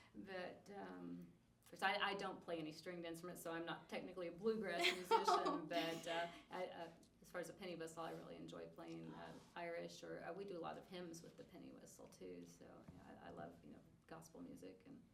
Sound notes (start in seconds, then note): 4.8 laughs